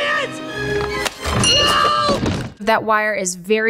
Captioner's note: intense music; bell dings